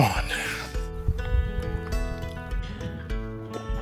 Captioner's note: wind blowing